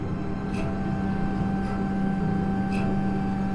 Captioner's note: electronic hum